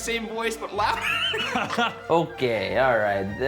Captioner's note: laughing